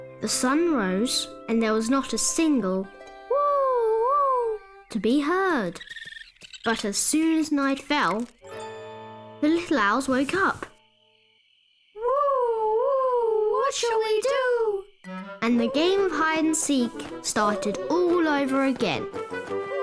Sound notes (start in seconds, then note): 11.9 owls hooting